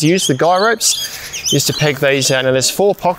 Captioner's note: birds chirping